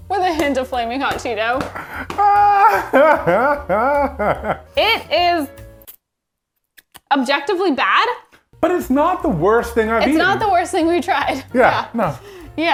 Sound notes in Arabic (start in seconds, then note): 1.7 يضحك إيفان; 6.7 صفعة الشفاه